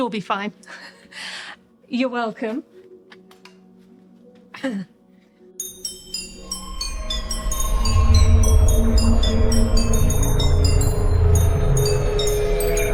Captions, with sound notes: I'm sure we'll be fine. You're welcome. (glasses ringing)